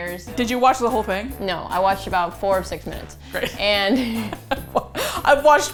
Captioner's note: laughs